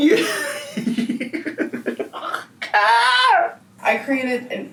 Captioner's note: laughing